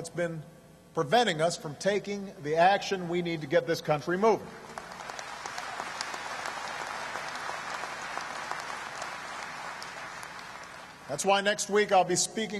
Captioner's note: applause